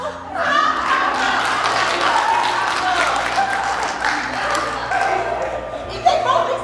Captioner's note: applause